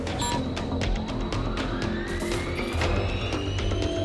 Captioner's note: whirring